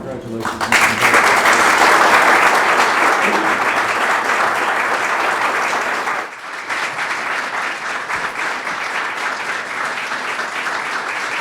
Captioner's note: applause